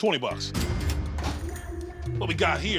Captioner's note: cash register dinging